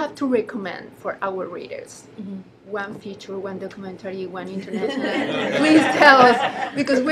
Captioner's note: laughter